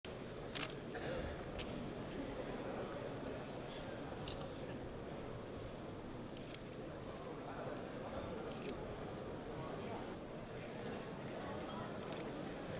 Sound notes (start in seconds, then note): 0.5 camera click; 6.4 camera clicks